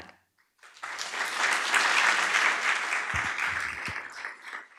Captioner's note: audience applauds